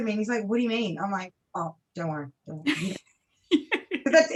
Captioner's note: laughs